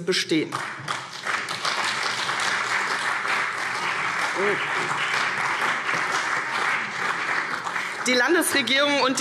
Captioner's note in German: Beifall CDU und BÜNDNIS 90/DIE GRÜNEN